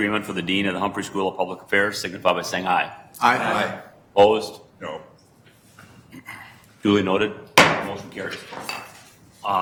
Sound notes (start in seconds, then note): 3.2 multiple voices; 7.6 gavel pounds